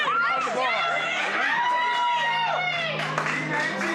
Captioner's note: shouting; applause